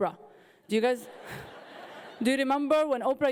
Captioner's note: audience laughing